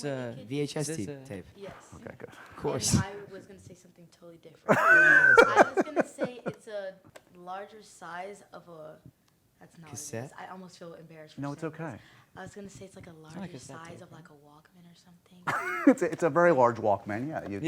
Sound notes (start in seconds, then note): 4.6 laughs; 15.5 laughs